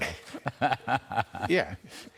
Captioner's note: laughter